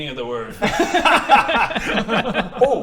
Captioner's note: laughs